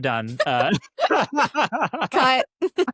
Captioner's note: both laughing